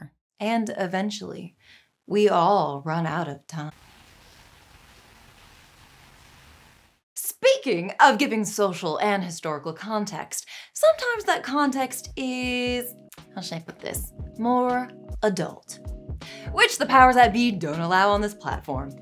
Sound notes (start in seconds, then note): 3.7 rain falling